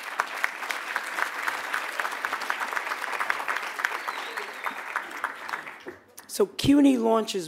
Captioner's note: applause